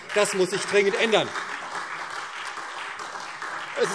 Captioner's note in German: Beifall SPD und vereinzelt DIE LINKE